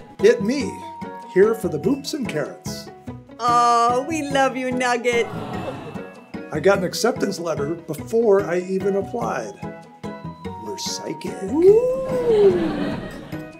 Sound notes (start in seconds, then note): 5.2 audience swoons; 12.1 audience laughs